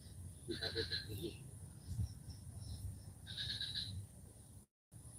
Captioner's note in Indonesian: suara Tongeret